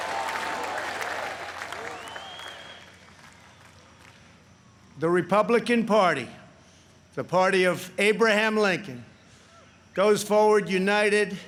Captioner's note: chanting u.s.a